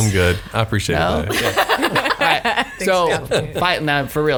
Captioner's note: laughs